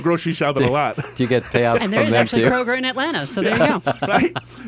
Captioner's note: laughs